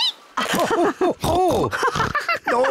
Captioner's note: both laugh